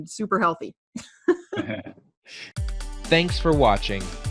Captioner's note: chuckle